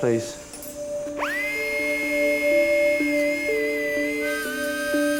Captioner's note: surgical instrument humming; gentle music